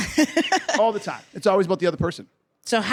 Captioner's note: laughs